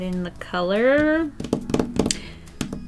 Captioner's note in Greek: Χτύπημα